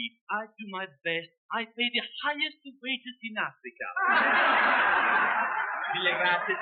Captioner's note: audience laughs